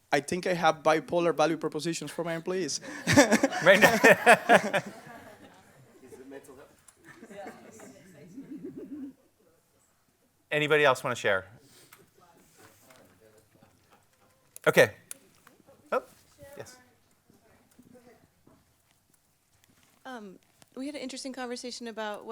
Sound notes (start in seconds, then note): 2.8 crowd laughs; 6.2 crowd chatters